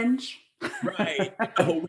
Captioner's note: laughs